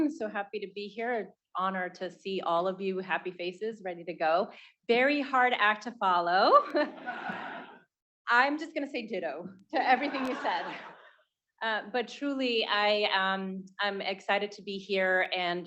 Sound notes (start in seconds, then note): 6.8 students laughing; 6.8 laughs